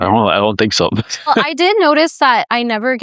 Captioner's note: laughs